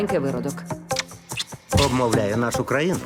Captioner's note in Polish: odgłosy pocałunków